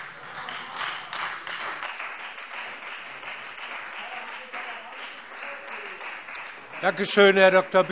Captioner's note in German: Beifall Freie Demokraten - Zurufe DIE LINKE